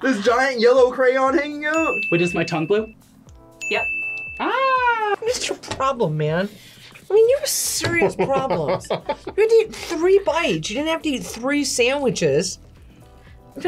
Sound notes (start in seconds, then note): 8.0 laughs